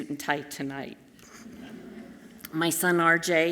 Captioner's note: audience chuckles softly